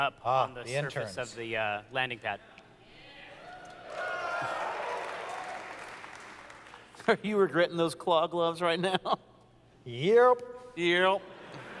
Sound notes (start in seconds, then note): 3.4 audience cheers; 7.1 chuckles